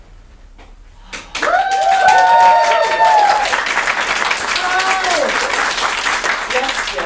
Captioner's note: cheering